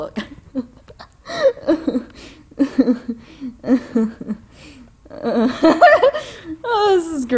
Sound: laughing

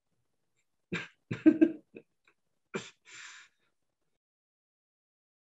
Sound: security agent chuckles

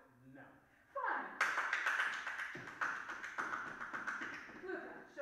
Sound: rapid clapping

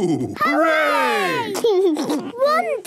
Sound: laughs

